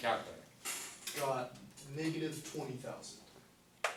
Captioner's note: voiceover